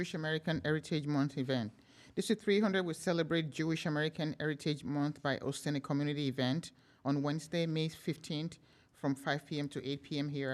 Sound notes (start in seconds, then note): none